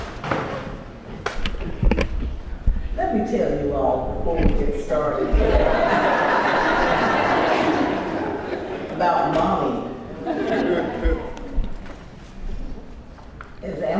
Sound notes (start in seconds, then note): 5.2 laugh